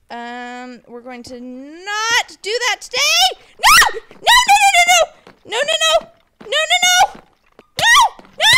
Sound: screams

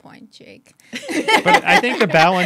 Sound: laughing

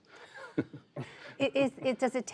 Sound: laughter

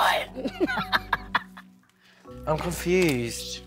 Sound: laughing

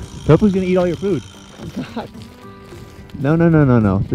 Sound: chuckling

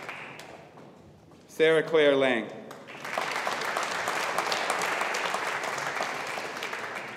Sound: audience applauding

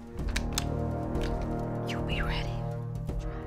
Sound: gun clicks

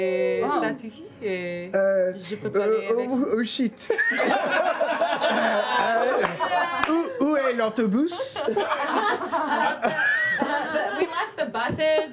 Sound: French accent

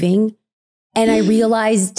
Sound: gasping

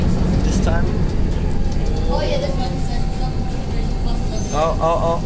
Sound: bus Noises and General Chatting

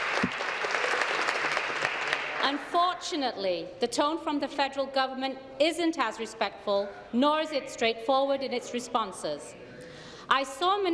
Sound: applause

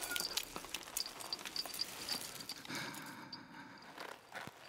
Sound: squishing

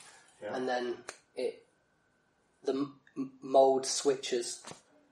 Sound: snaps fingers

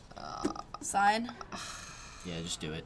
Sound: sighing

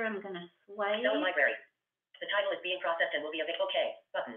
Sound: VoiceOver voice

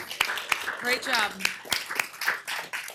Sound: applause

